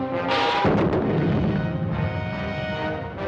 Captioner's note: booming